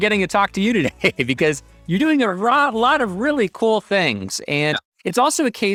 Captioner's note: laughs